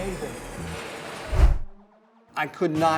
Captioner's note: air whooshing